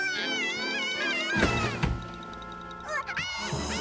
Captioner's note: Tucker cries; eerie string music